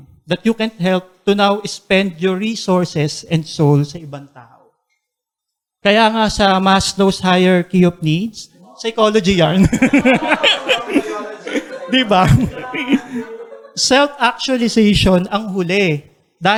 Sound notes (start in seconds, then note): 9.5 laughter; 12.7 chuckles